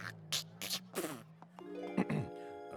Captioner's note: coughs; spits; clears throat